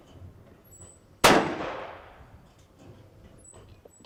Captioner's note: gun shooting